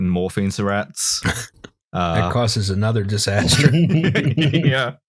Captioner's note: laughter